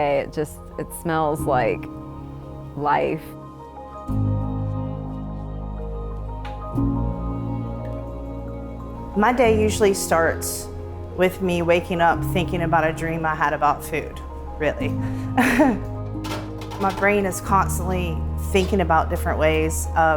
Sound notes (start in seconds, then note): 15.3 chuckles